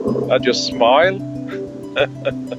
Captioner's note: laughing